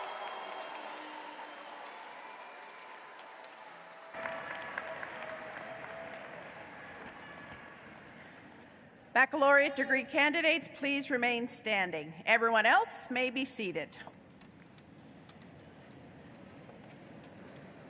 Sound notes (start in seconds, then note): 0.0 applause